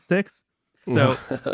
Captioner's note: laughs